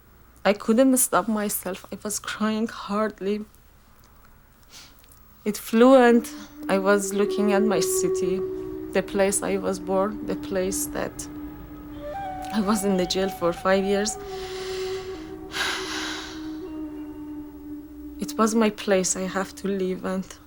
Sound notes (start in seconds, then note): 14.1 sighing